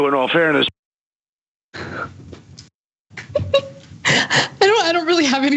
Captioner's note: laugh